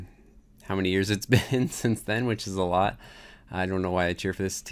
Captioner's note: chuckles